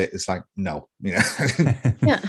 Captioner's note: laughter